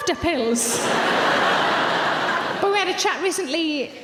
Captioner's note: audience laughs